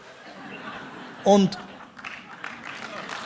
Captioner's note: applause